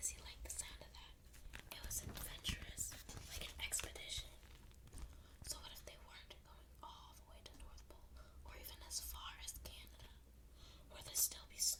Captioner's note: page flipping